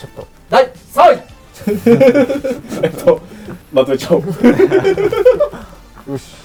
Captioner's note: nervous laughter